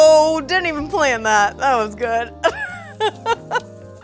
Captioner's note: laughs